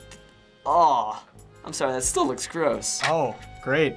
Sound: groaning

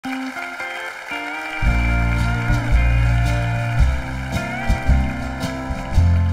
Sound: audience applauding; warm introspective music

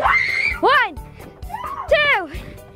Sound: screaming

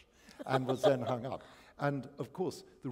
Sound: laughter

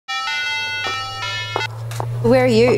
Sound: mobile phone rings

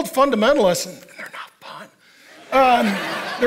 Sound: whispering

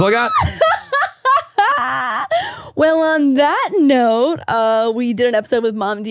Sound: laughs

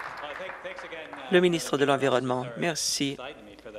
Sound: some Applause

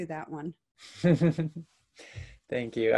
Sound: chuckles

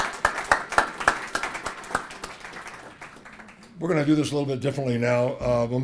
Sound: applause

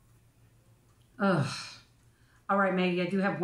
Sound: grunting

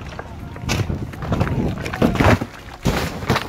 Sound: rocks clanking

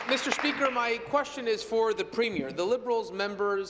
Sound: applause

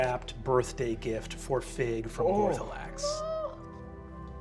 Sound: groans sadly

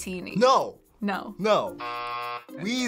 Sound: buzzer

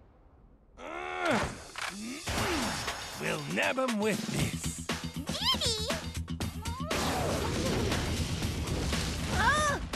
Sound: grunting

